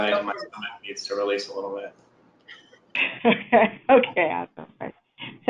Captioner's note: laughing